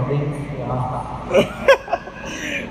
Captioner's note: laughter